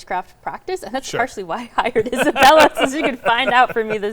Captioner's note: chuckles; laughing